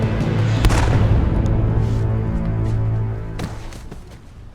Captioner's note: gunfire popping